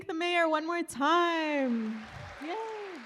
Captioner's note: applause